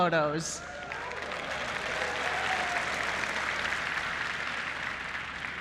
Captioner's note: applause